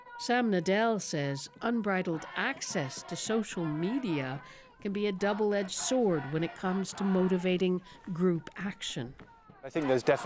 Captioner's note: chants